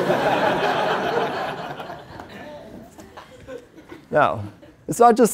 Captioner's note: laugh